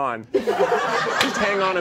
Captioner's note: all laughing